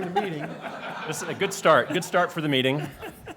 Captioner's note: laughter